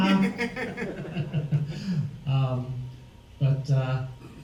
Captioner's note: laughs; all laugh